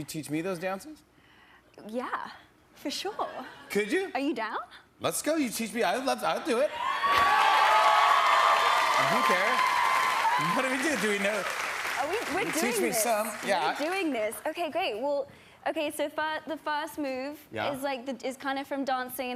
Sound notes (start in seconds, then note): 2.7 laughter; 7.0 applause